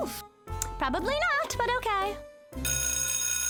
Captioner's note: ringing